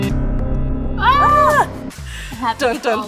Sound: both scream

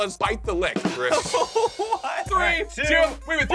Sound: laughs

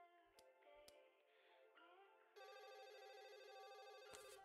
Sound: phone ringing

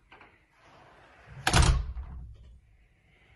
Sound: door closes loudly

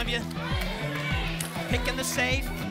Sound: audience shouting icons

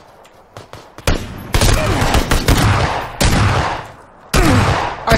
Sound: gunfire

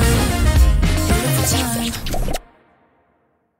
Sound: kissing effects

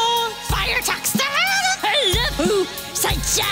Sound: nonsensical noises

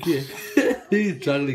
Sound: laugh

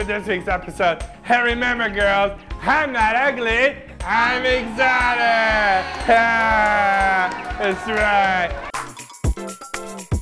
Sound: cheering; spoon playing music

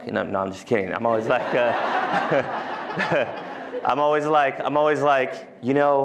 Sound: laughter

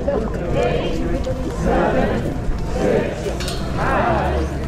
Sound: crowd; crowd chattering

